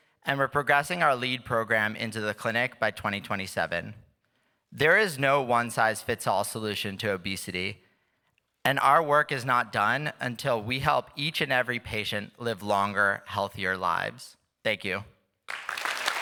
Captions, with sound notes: and we're progressing our lead program into the clinic by 2027. There is no one size fits all solution to obesity. And our work is not done until we help each and every patient live longer, healthier lives. Thank you. [Applause]